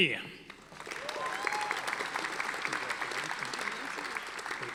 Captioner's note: audience applauding